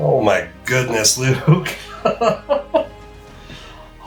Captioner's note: laughter